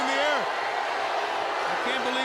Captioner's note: audience cheering